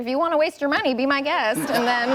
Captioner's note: laughter